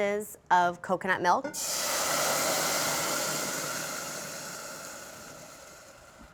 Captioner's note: sizzling